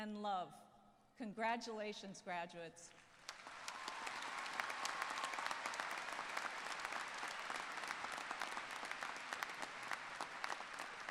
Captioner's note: applause